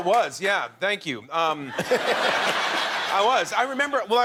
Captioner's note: laughter